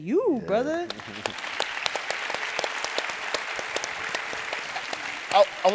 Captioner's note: audience applauding